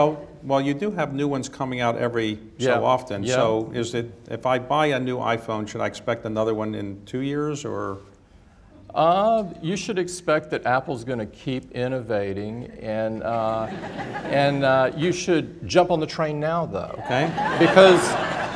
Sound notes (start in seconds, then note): 13.2 laughter; 16.9 laughter